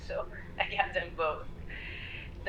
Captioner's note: laughing